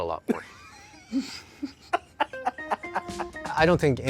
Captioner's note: laughs